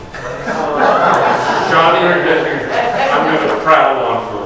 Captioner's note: audience laughs